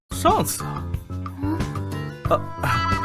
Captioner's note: cough